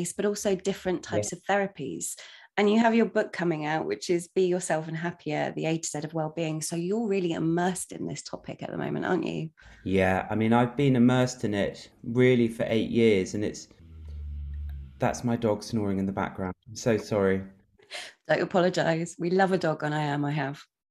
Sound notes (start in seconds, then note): 13.4 snore sound